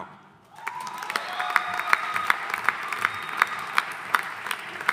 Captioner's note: audience applauding